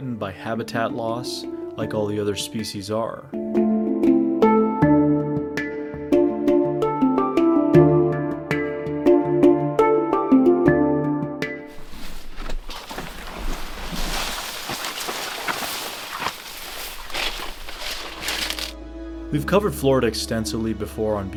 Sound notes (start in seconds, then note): 3.3 tranquil music; 11.6 feet crunching; 11.6 plants rustling